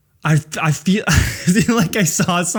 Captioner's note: laughs